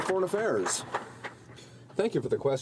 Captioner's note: some Applause